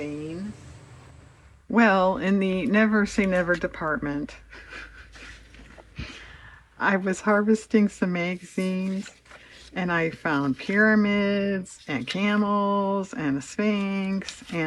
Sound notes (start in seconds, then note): 4.4 laughs